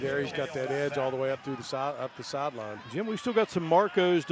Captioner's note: applause